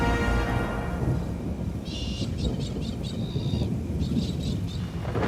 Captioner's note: thunder rumbles